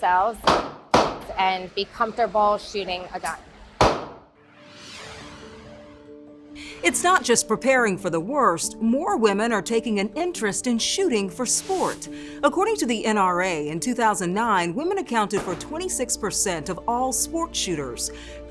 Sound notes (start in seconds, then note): 0.4 gun firing; 3.3 graphic whooshing; 3.8 gun firing